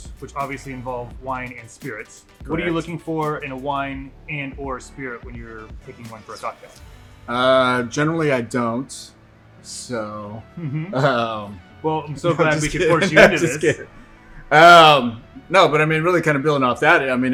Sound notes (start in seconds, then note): 12.2 laughs